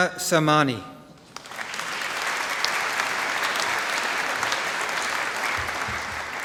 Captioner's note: applause